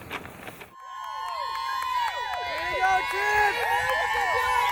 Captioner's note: cheering, applause